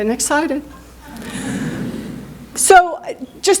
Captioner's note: chuckling